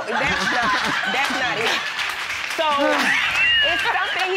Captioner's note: audience applauding